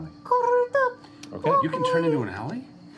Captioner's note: pigeon cooing